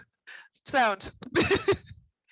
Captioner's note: laugh